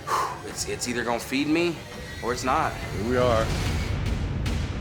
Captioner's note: exhales